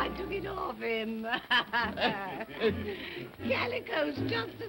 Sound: all chuckling

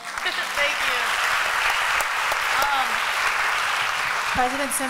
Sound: applause

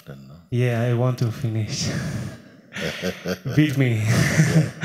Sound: laughter

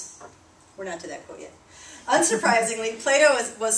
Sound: laughter

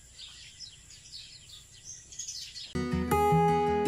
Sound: birds chirping

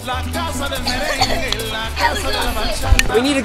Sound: coughing

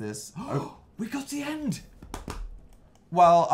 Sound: gasps; claps

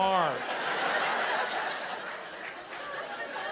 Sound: laughter

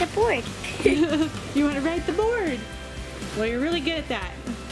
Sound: laughs

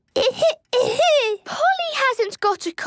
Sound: coughing

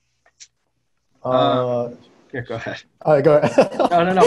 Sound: laughs

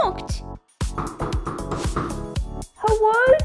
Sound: knock, Knock, Knock, Knock, Knock!

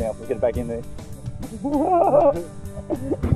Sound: cheeky laughter

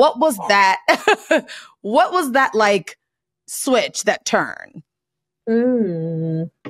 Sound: laughs

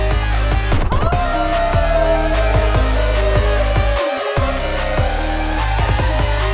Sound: awooooooo

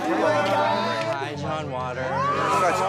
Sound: yelling

